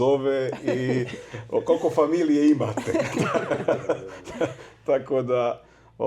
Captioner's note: laughs